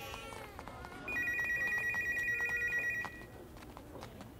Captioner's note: Phone ringing